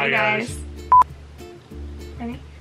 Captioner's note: beep